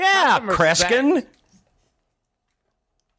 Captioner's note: pause